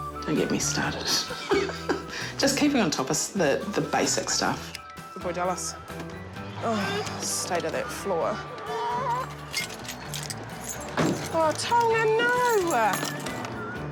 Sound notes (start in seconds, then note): 1.1 chuckles; 8.4 grizzles